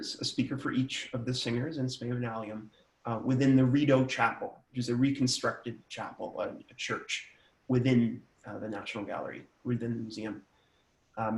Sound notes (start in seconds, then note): none